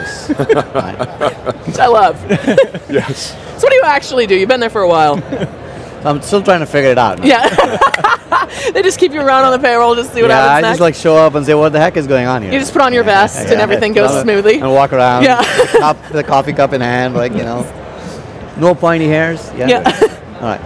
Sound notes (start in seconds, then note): 0.0 laughs; 7.3 laughs; 19.7 laughs